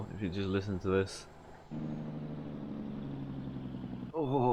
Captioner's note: engine brake roar